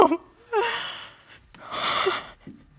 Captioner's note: crying